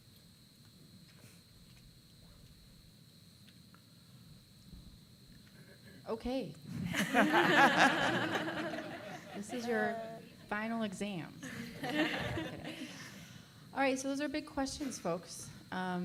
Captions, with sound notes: - Okay. (laughing) This is your final exam. All right, so those are big questions, folks.